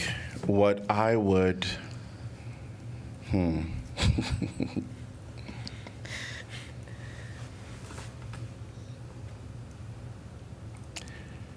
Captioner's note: laughter